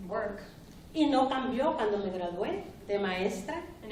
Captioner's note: speaking spanish